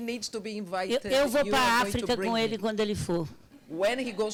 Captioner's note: speaking Portuguese